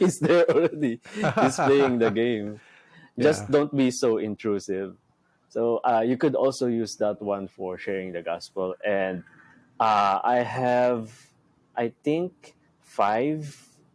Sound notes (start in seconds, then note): 2.6 laughs